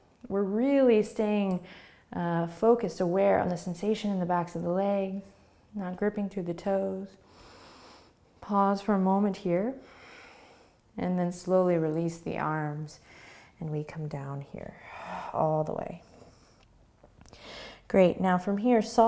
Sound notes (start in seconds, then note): 7.3 inhaling; 9.8 breathing